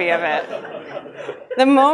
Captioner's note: audience laughs